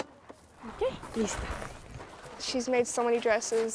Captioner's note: foreign language